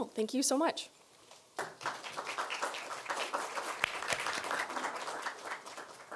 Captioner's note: applause